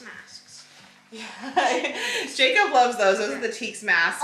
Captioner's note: laughs